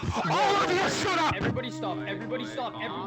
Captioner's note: yells